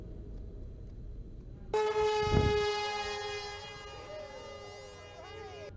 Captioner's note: loud drone sound